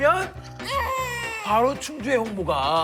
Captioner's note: crying